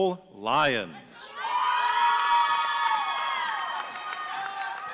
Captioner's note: audience cheering